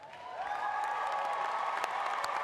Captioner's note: applause